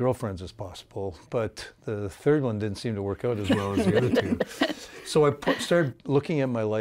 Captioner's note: laughing